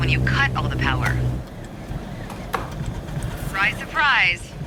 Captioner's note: simulator engine sputters